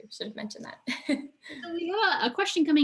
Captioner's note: chuckles